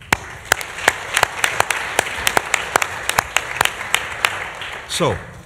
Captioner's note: applause